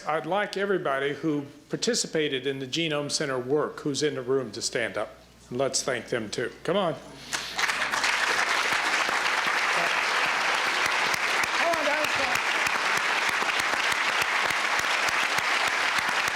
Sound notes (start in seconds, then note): 7.3 applause